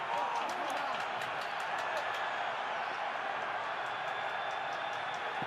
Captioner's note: cheers